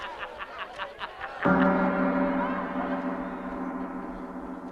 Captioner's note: gong rings